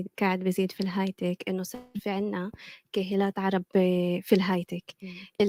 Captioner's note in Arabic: لغة أجنبية; لغة أجنبية